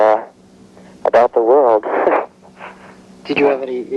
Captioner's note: laughing